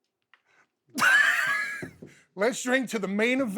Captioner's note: Bubba Ray laughs